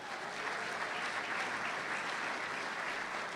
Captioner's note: applause